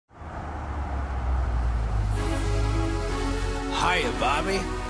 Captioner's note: car pulls up